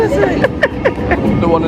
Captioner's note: laughing